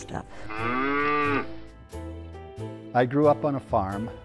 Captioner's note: cow mooing